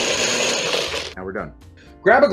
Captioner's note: blender whirring